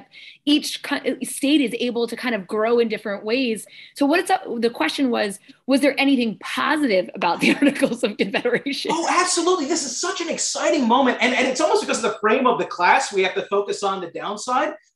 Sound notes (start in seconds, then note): 7.3 laughter